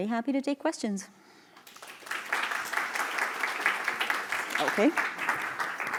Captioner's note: applause